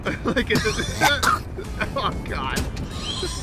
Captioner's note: coughing; laughing